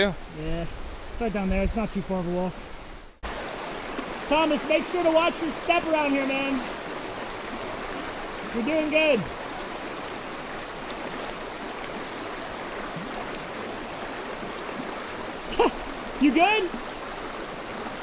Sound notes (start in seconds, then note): 11.2 water streaming; 15.5 laughs